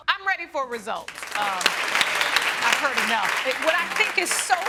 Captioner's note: audience applauding